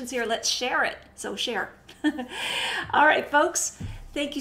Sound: chuckles

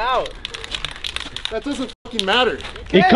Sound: rattling spray can

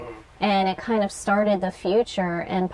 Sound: sounds of agreement

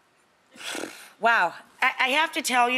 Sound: sighing

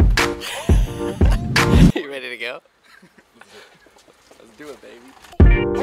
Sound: laughs; peppy electronic music

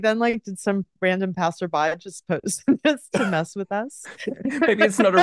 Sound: laughs

